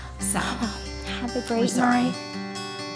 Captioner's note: sighs